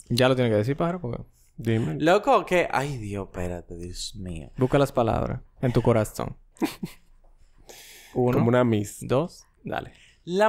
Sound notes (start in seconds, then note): 6.6 laughs